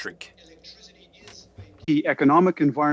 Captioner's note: speaking French